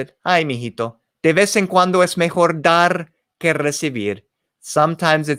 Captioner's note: spoken in foreign language